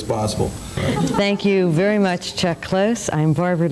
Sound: laughing

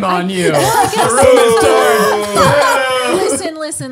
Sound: boys booing; laughing

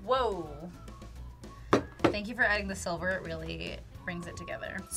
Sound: none

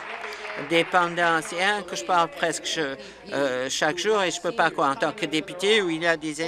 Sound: applause

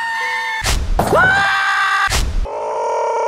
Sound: SpongeBob Scream; Squidward Scream; Patrick Scream

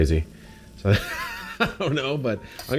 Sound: laughs

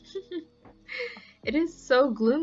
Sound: laughs

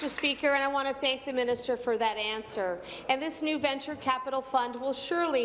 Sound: applause

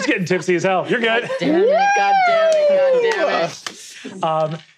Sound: people cheering

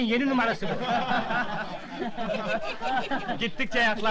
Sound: laughter

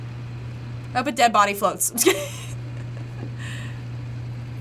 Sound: chuckles

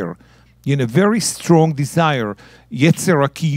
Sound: speaking in Hebrew

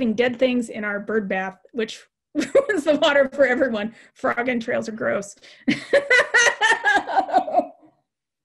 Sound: laugh

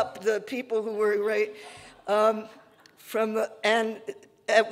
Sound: audience laughing

